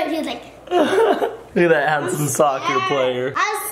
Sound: laughs

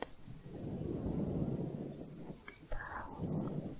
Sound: windy sounds

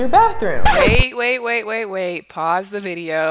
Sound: record scratching sound

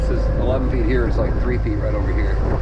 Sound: boat engine running

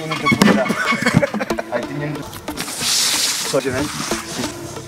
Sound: laughing

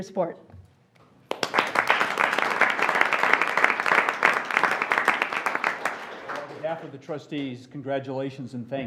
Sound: applause

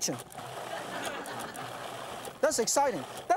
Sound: audience laughs

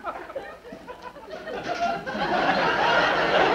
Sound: audience laughs

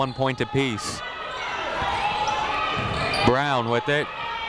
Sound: people shouting in the crowd

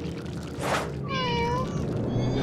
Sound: meowing

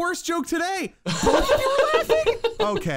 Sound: laughing

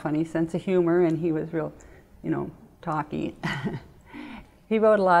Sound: laughs

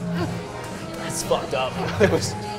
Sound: laughs

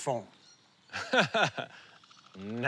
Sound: laughs

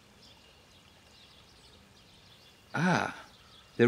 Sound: birds singing

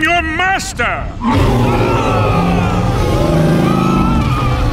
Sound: roaring, screaming

